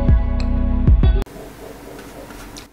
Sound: dogs Barking

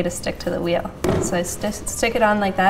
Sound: clay thuds

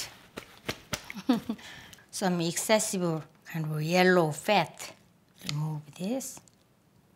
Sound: laughs

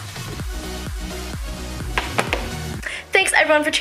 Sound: heel Click

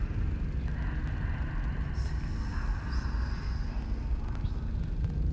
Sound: ghostly whispering

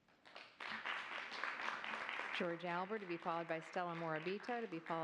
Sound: applause

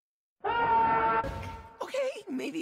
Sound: scream

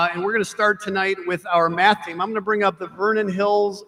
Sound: none

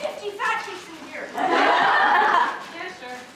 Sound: audience laughter

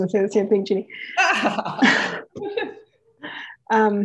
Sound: laughs

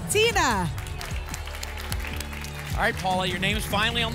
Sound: applause and cheering

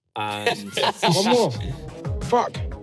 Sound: everyone laughing

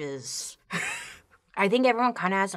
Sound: laughs

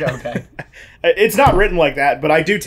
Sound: laughs

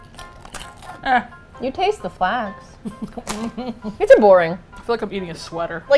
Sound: laughs

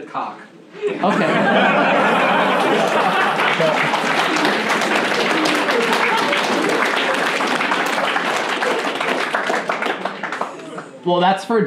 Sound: laughing and clapping

